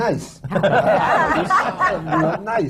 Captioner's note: laughter